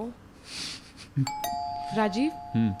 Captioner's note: door bell